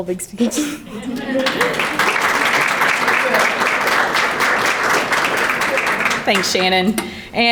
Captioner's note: background chattering; laughs; crowd clapping